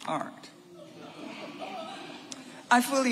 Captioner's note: audience laughing